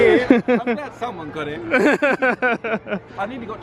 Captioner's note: laughs